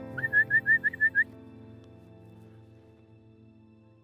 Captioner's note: whistling